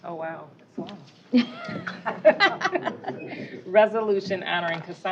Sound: laughter

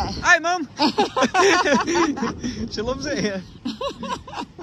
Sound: laughing

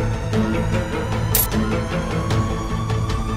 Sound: coins clinking

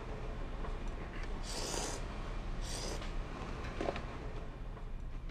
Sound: slurping

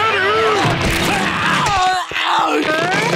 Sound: groaning

